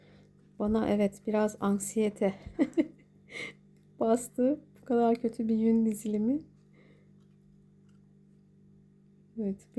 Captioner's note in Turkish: kahkaha